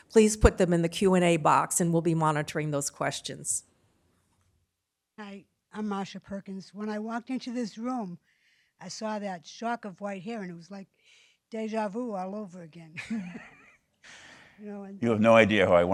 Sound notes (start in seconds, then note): 12.9 laughs